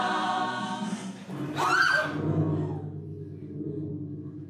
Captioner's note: screams